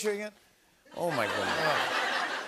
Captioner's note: laughter